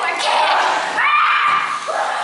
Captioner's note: CHORUS LEADER cries out